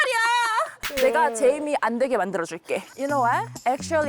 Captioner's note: sound effect of having a solution